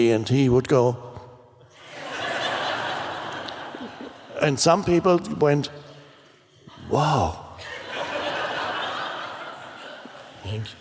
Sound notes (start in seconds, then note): 1.8 audience laughs; 7.6 audience laughs